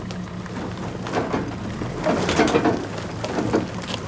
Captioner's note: engine rumbling